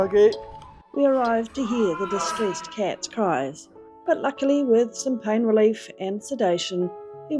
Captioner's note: cat yowling